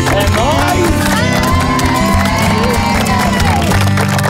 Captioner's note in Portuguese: todos gritam